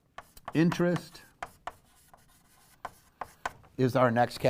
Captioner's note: pen knocking